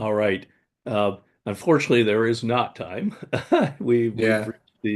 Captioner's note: chuckles